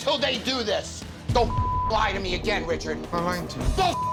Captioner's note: beep